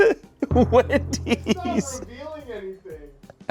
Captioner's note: laughs